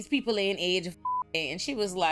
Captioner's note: beep